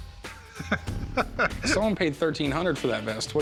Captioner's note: chuckles